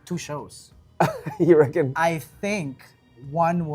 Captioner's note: laughs